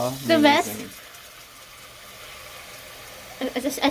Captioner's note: water sounds